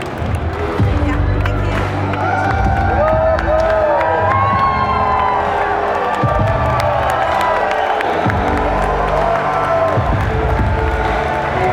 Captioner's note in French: applaudissements